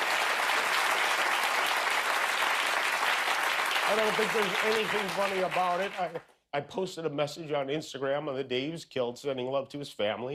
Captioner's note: applause